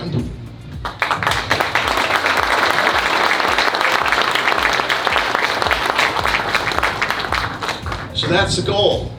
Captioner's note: applause